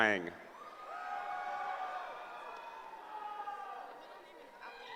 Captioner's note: cheering